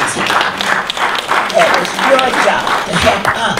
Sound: audience applause

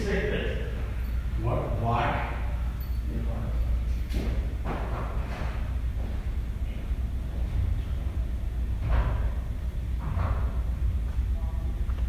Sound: whispers

